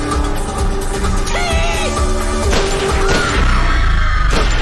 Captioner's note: gunfire; crowd screaming